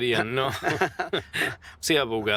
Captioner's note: laughs